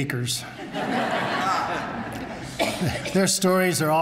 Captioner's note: laughter